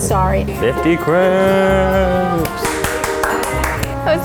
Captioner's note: claps